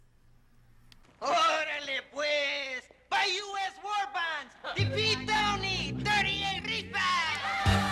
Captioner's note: foreign Language Spoken